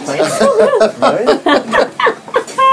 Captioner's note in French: rires